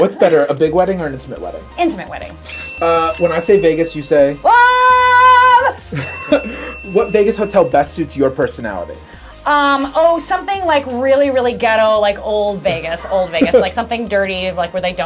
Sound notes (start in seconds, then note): 2.4 ding; 6.0 ding; 13.0 laughter